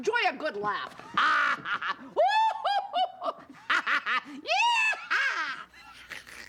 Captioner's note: imitating various laughs